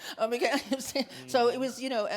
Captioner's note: laughs